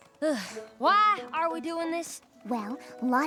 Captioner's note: sighs